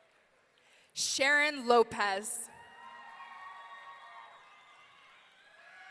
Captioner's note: audience cheering